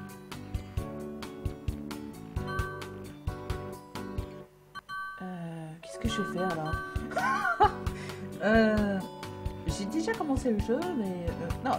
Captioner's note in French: rire